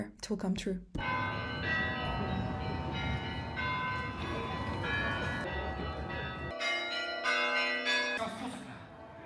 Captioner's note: mysterious bells